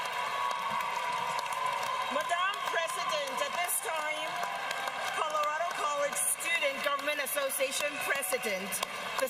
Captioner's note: cheers and applause